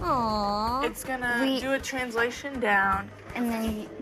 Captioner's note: female electronic voice